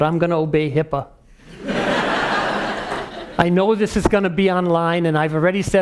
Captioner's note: laugh